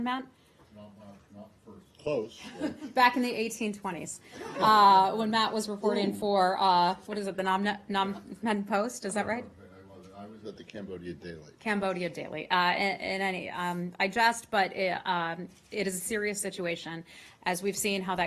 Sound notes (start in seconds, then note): 2.4 laughter